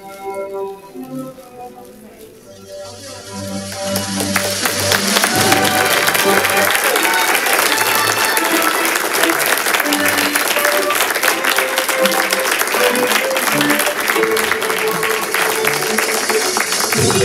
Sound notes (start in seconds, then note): 4.3 congregation applauds; 13.5 soft music continues